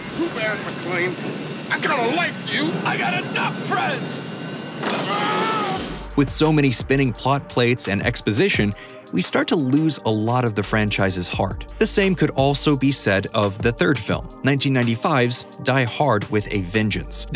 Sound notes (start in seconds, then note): 4.8 screaming